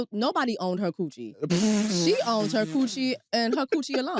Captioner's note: laughs